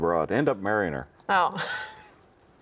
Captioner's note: laughs